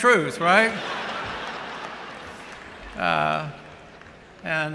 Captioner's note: laughter